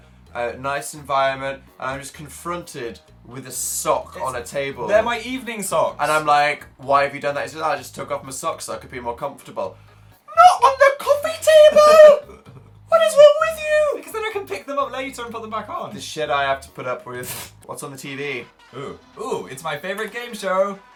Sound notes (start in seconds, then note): 10.0 exasperated; 13.0 chuckles; 17.2 snorts